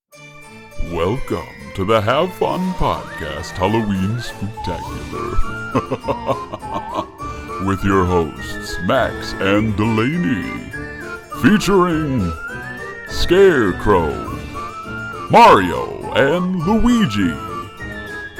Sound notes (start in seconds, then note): 1.1 laughter